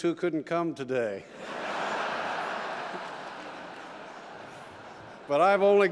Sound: laughter

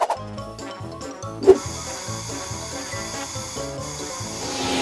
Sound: spray can noises

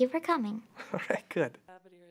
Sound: laughs

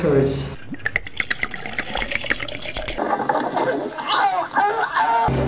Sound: drink pouring

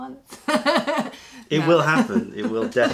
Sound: laughter

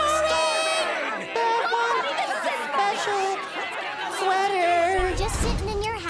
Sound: audience grumbling

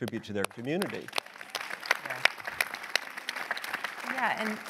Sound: audience applause

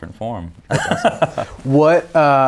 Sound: both laughing

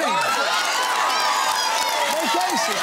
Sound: cheering and applause

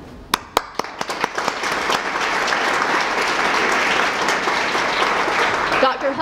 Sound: applause

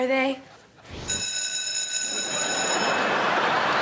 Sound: bell rings

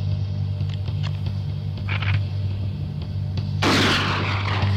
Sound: rifle loading; gun firing

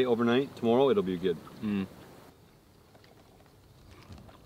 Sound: slurping

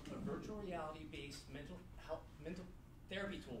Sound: none

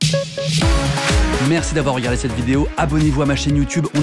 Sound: voiceover

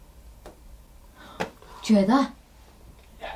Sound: tapping

